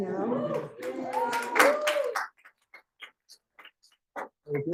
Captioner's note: student cheering